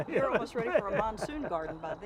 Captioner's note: laughing